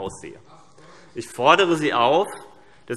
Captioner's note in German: Zuruf